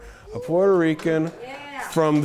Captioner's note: audience applauding